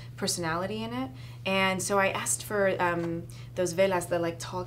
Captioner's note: speaking foreign language